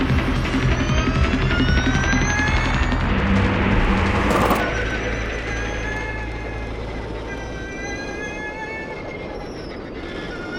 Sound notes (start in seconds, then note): 1.3 engine revving